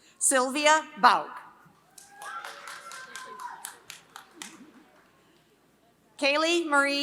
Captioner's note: applause